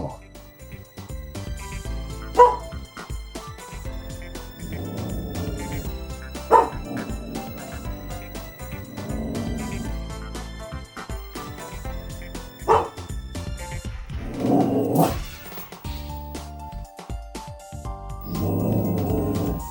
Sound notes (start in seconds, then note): 2.2 barking; 4.4 dog growling and barking